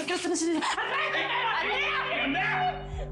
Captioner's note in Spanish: Gritos